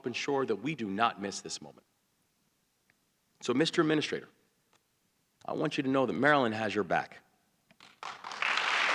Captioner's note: applause